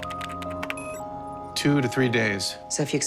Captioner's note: typing